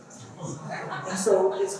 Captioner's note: laughter